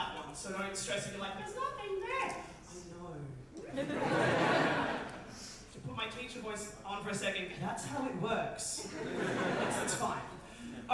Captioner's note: audience laughter